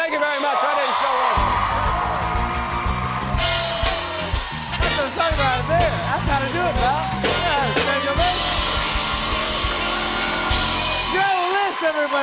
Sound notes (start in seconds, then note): 1.1 band plays; 1.1 cheers and applause; 8.4 cheers and applause